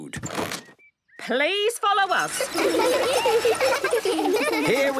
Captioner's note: laughter